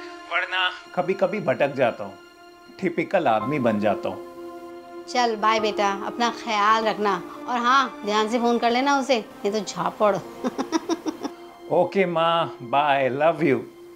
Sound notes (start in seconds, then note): 10.3 laugh